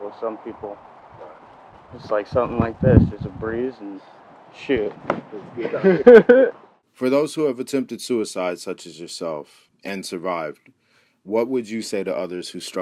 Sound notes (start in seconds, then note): 5.4 laughs